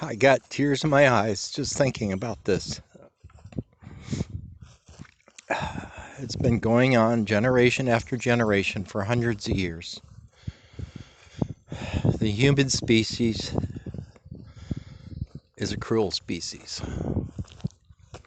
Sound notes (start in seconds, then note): 5.4 sigh